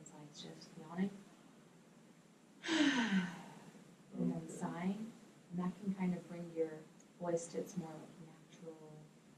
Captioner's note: yawns